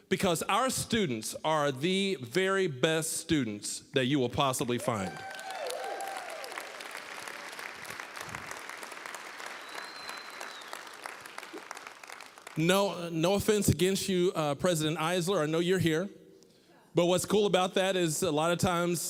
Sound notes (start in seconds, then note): 5.5 applause, cheering; 7.2 applause